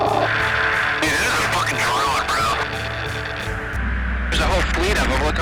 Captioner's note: voiceover